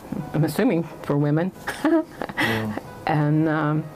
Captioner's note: laughs